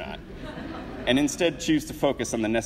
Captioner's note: audience laughs